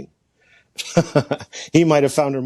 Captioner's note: laughs